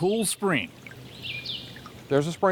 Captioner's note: birds chirping; water trickling